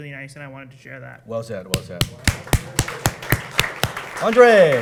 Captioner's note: applause